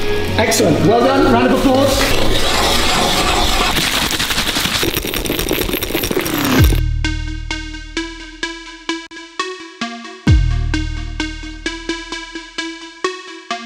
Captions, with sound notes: Excellent, well done, round of applause! (items rattling) (upbeat electronic music)